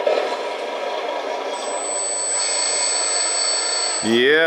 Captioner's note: motors grinding